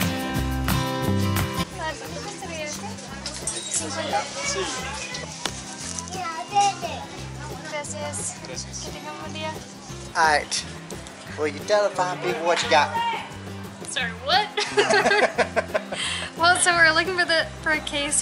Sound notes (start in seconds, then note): 10.1 doing a strange, almost inaudible, accent; 14.5 laughter